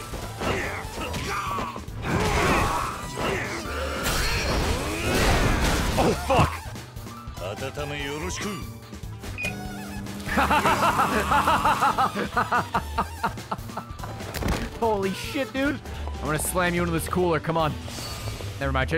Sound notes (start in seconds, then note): 10.2 laughs